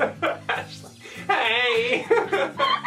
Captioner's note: laugh